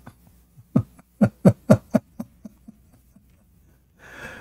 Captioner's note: Ketawa